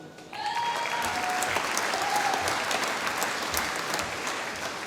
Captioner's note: applause